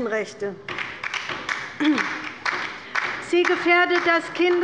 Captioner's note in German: Beifall bei der LINKEN